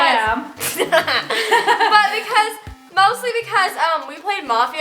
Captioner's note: laughs